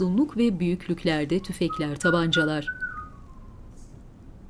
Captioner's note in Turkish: Islık sesi